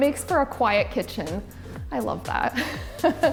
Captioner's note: laughs